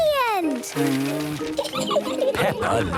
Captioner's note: blows